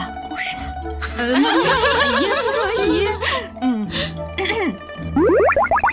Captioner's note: ahem